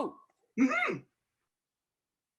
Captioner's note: affirming grunt